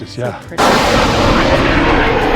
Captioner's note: water splashing